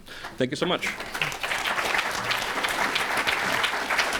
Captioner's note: applause